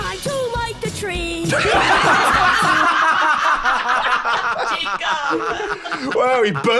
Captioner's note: all laughing hysterically